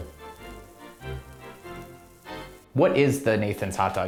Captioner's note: sizzling